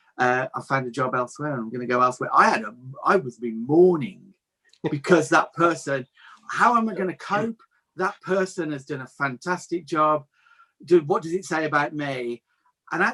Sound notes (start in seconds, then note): 4.8 laughs